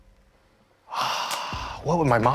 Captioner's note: sighs